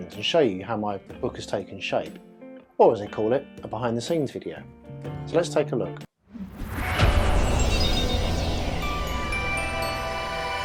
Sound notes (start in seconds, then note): 6.2 whooshing; 7.9 sparkling